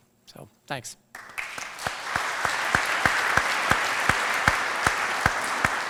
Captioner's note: applause